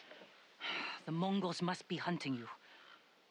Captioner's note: sigh